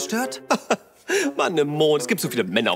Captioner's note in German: lacht